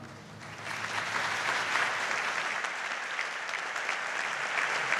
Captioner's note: audience applauds